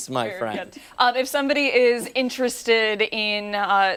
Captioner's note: laughter